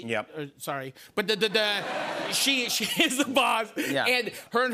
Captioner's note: laughter